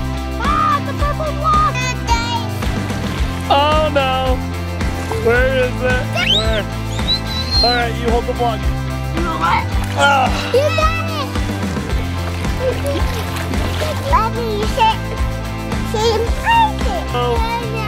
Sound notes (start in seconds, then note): 6.8 screeching